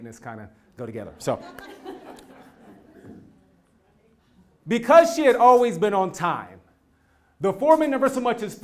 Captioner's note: laugh